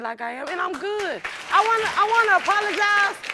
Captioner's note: audience applauding